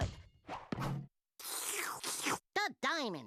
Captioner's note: slurping